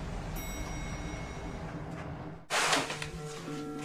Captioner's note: elevator pings